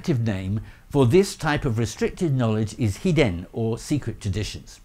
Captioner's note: speaking Japanese